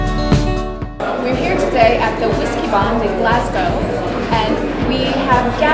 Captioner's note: crowds talk